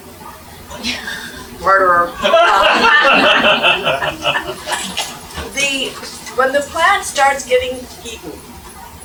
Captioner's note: laugh